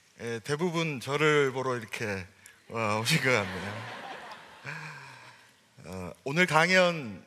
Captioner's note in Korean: 웃음